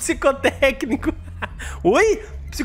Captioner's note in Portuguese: risos